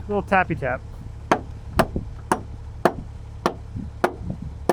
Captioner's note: hammer banging